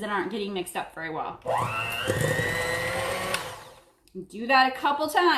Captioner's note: mixer whirring